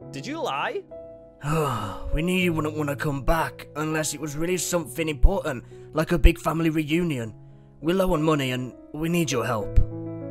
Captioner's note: sigh